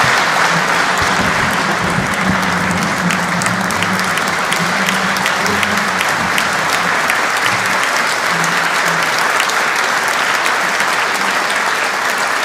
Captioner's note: applause